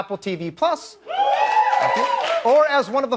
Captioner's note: crowd cheers